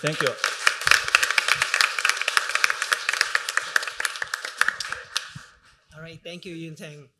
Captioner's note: applause